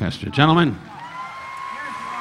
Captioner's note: audience cheering; audience applauding